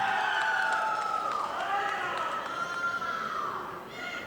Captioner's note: audience applauding